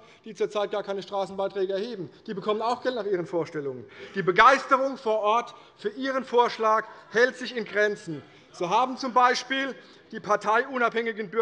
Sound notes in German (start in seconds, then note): none